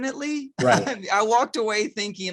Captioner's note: chuckles